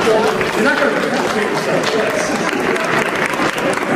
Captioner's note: laughs